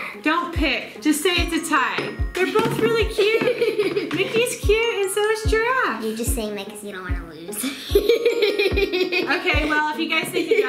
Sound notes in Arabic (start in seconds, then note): 3.2 يضحك; 7.6 يضحك